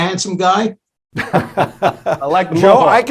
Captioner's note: laughs